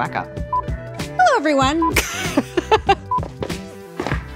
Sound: laughing

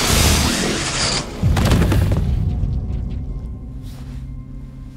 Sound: creature thudding

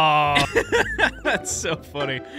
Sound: laughing

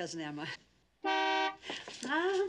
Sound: horn beeps

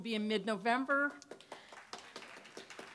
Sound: applause

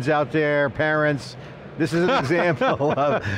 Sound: laughing

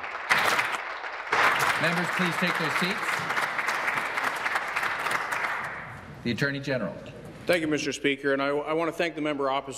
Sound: applause

